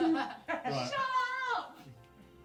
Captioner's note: laughter